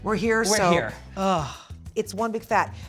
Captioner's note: sighs